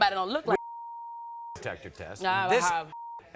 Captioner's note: beep